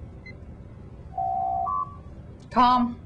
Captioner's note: door Chime